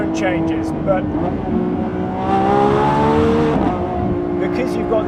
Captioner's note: car roaring loudly